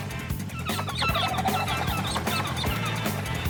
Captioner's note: chittering